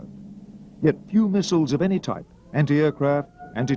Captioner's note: siren blaring